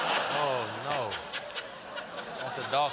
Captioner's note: laughter